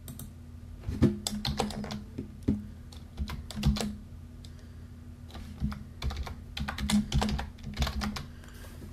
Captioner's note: typing sound